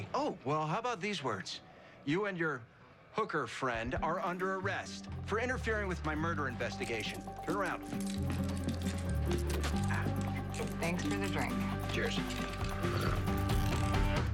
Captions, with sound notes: OH, WELL, HOW ABOUT THESE WORDS? YOU AND YOUR HOOKER FRIEND ARE UNDER ARREST FOR INTERFERING WITH MY MURDER INVESTIGATION. TURN AROUND. (handcuffs clicking) AH. THANKS FOR THE DRINK. CHEERS. I GOT THIS COVERED. SORRY ABOUT THAT.